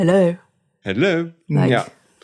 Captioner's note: fancy voice